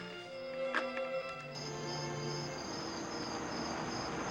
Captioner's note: crickets chirping